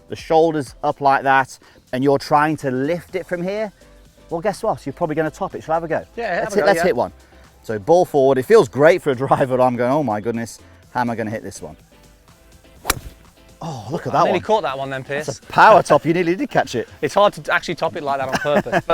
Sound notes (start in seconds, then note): 12.7 club clipping ball